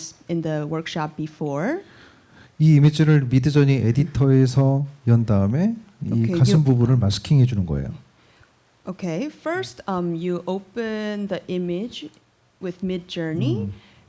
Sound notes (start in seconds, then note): 2.6 speaking korean